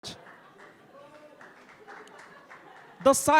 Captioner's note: audience clapping